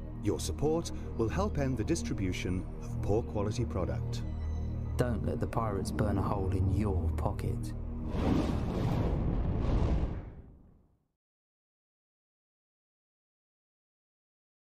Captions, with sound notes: Your Support Will Help End Distribution Of Poor Quality Product "Don't Let The Pirates burn Hole In Your Pocket" (Flames Bursts)